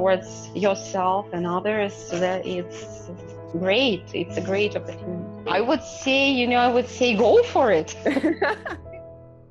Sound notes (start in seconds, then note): 8.0 laughter